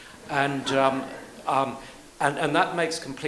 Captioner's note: audience laughs